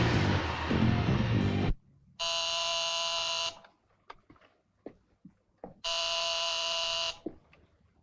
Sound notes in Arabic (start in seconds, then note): 2.7 رنين الهاتف